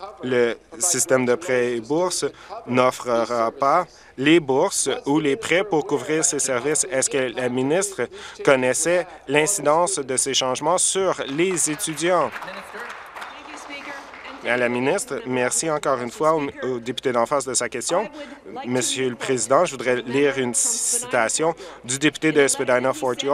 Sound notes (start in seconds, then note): 13.9 applause